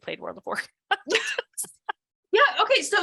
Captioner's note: laughter